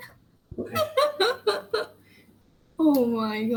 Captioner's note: laughs